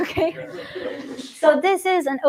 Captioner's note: laughter